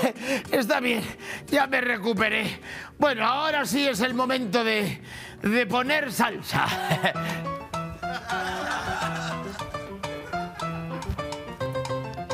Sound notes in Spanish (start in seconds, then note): 6.6 Risas